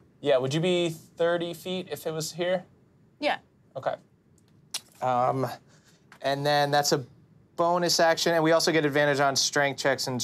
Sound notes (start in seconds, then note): none